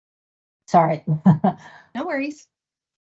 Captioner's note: laughs